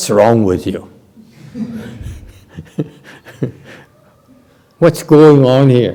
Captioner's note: laughter